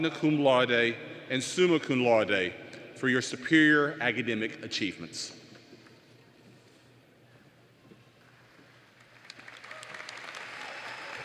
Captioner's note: applause